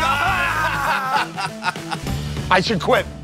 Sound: laughter

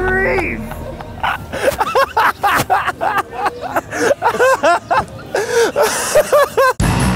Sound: laughing

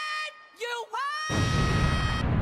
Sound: explodes

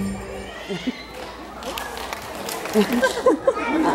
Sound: laughing

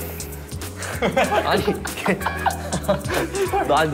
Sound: laughing at his rough words

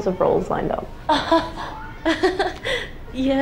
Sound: laughs

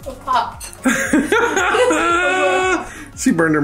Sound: laughs

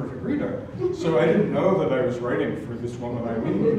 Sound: laugh; laugh

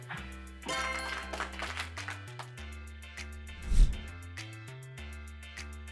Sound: applause sound effect plays

